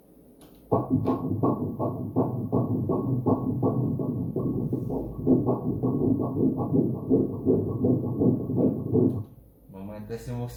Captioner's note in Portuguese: batidas do coração